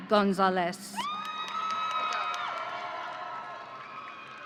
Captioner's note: audience cheering